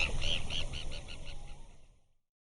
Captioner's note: bird tweeting